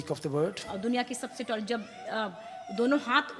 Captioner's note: speaks foreign language